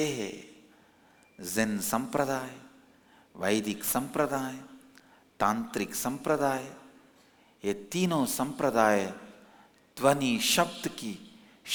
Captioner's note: hindi